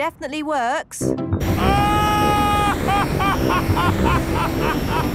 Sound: excited screaming, laughing

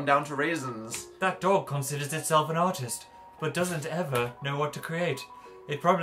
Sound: smooth voice

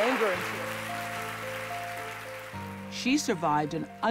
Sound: applause

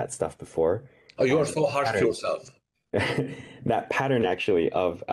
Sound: chuckles

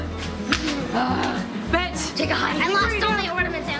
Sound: groaning

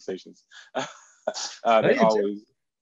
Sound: chuckles

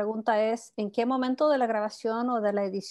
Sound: speaking Spanish

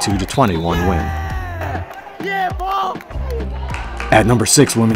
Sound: wrestler exclaiming

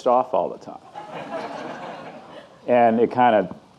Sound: audience laughing

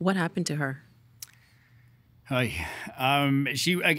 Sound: sighing

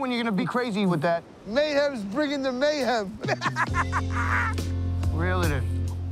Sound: laughs

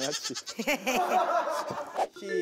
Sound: tee-hee-hee

